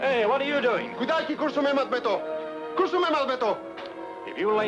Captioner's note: man speaks in foreign language